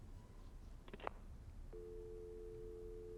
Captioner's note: dial tone